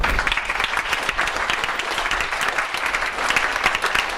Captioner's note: audience applause